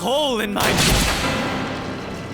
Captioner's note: gunshot